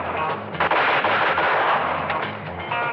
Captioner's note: gunshots